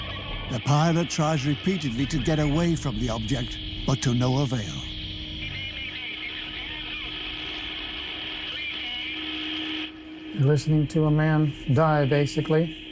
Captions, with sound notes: The pilot tries repeatedly to get away from the object, but to no avail. (man on radio) Mayday, mayday, this is Ercoupe three eight zero. You're listening to a man die basically....